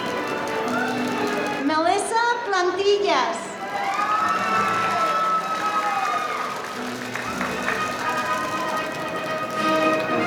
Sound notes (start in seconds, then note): 3.6 audience cheering; 7.0 audience applauding